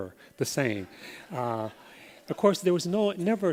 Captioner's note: laughter